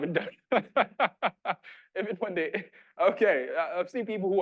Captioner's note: laughing